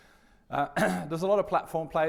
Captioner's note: coughs